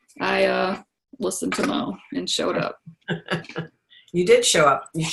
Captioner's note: laughs